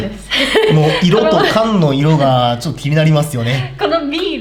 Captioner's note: laughs